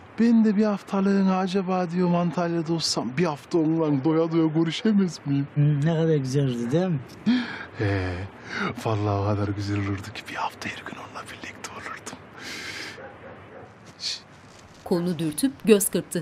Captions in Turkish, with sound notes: ...ben de diyorum acaba bir haftalığına Antalya'da olsam... ...bir hafta onunla doya doya görüşemez miyim? Hım, ne kadar güzel olurdu, değil mi? (Nefes sesi) -Hee! Vallahi o kadar güzel olurdu ki. Bir hafta her gün onunla birlikte olurdum. (İç çekme sesi) Şişt!